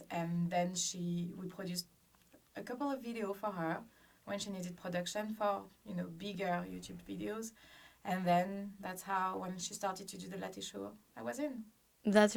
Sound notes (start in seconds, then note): none